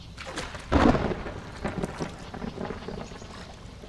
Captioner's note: A clap of thunder